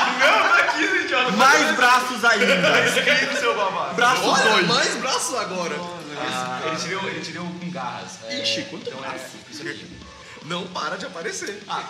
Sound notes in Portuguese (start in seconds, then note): 2.3 Risadas